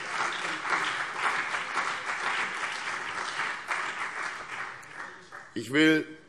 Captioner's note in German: Beifall CDU und BÜNDNIS 90/DIE GRÜNEN